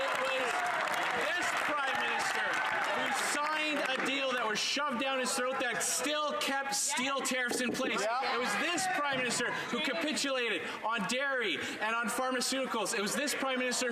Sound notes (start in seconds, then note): 5.7 crowd Noise